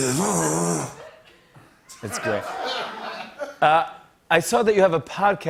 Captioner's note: laughter